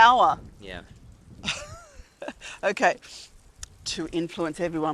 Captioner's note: laughs